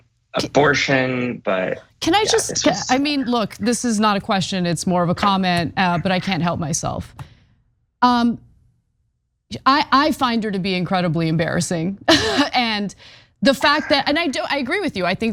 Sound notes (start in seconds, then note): 13.5 laugh